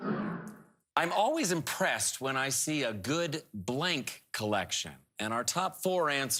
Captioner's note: whooshing